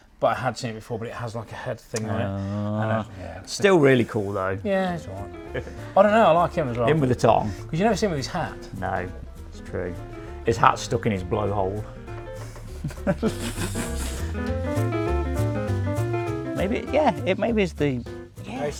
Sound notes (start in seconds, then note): 12.5 chuckle; 14.1 playful music plays